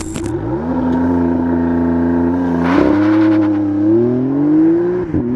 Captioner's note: acceleration sound